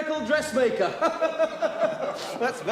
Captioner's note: all laughing